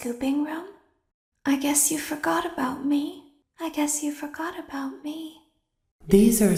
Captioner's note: repeats but in a sadder tone